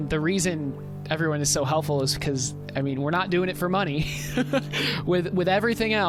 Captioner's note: laughter